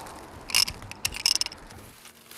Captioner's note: rotating noise; rustling noise